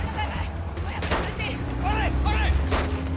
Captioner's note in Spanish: Gritos y exclamaciones; Disparos